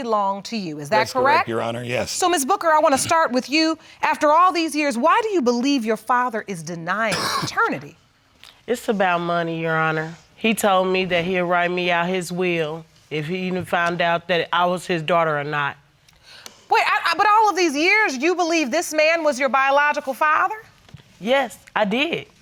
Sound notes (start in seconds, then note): 7.0 coughs